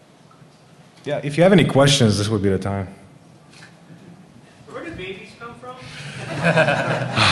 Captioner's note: laughter